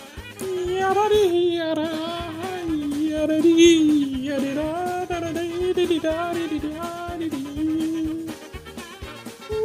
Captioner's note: vocalizing